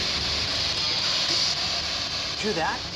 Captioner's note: distorted voice